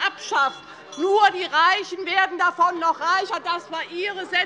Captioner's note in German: Unruhe - Glockenzeichen der Präsidentin